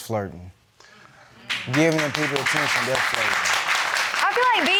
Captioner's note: crowd clapping